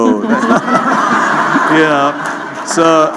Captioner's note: laughter